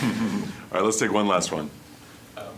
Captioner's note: all laughing